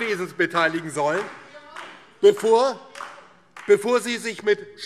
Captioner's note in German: Beifall DIE LINKE